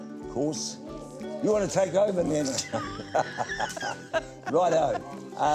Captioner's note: laughs